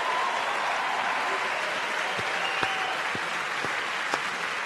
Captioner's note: audience cheers and applauds